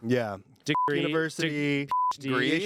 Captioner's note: beep